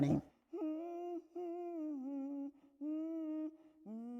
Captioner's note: woman humming